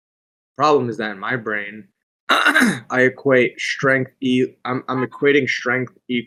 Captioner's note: clears throat